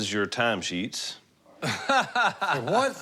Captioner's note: laughs